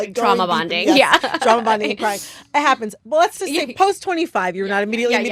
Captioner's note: laughter